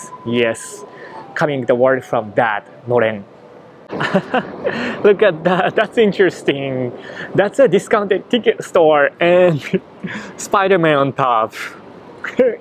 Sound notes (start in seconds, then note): 3.9 laughs